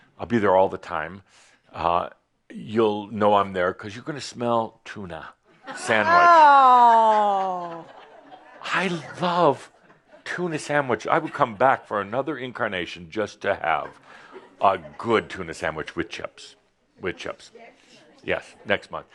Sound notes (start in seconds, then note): 5.8 some chuckles